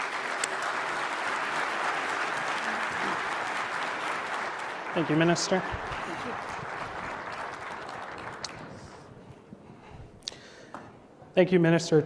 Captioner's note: applause